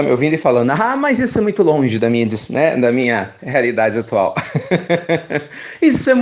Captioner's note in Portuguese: risos